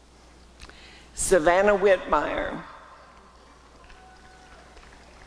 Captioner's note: applause and cheering